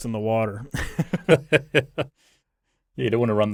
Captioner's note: both laughing